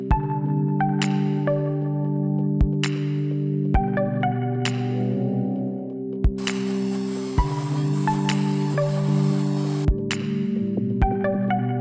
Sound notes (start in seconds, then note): 6.4 saw whirring